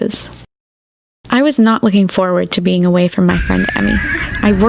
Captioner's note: screaming